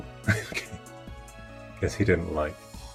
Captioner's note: laughing